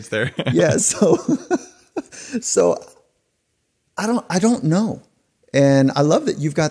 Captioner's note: laughing